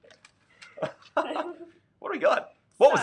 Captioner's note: laughing; both laugh